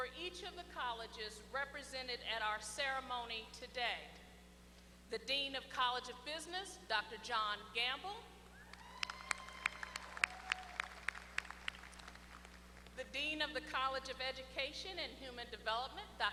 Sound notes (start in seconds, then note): 8.7 applause